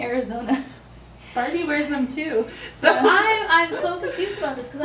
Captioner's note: laughs